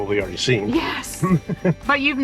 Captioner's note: laughs